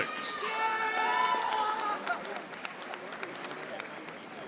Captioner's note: audience applauding